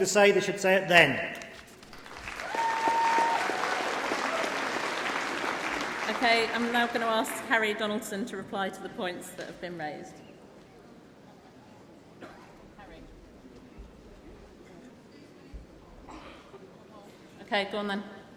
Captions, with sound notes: supporting different motions put forward two composites, 13 and 14, they deserve to be heard this afternoon, if the NEC have something to say, they should say it then. (Applause) >>: I will now ask Harry Donaldson to reply to the points that have been raised.